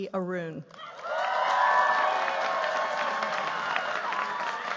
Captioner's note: cheers, applause